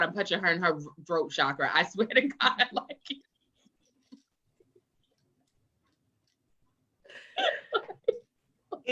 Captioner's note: both laugh